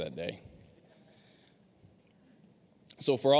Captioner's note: audience laughing